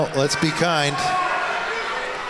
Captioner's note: audience Erupts